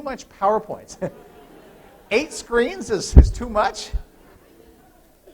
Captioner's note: laughter